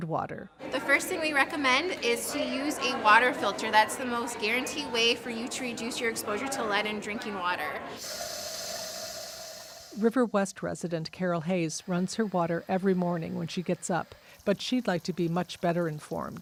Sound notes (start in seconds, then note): 8.0 water rushing